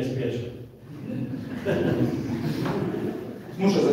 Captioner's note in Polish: Śmiech